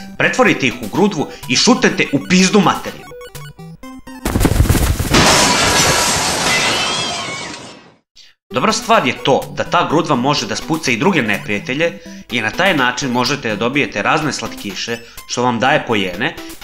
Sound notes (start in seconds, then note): 4.1 the snowball rolls and hits the wall; 5.1 things fall apart, a cat screams